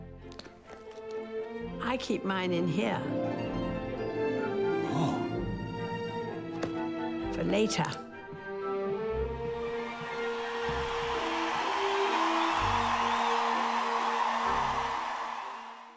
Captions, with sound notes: I keep mine in here. - Oh. - For later. (crowd cheers)